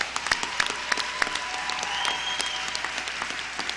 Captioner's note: applause